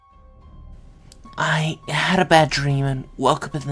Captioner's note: in horrible child voice